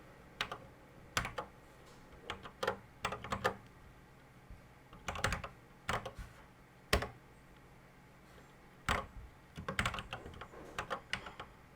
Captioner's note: typing on a C64 keyboard